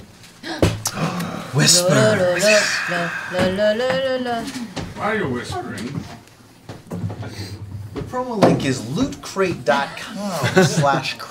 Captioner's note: gasps